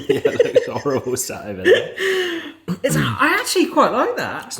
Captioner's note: laughs